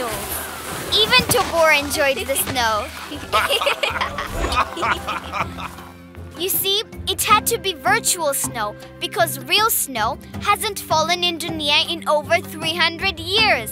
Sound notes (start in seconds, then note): 2.0 laughing